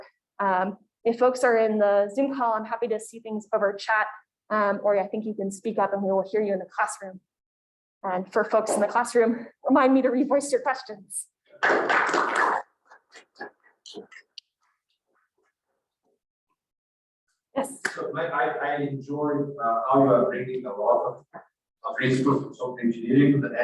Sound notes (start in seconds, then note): 11.5 group claps